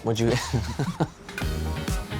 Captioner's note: laughing; bright rhythmic music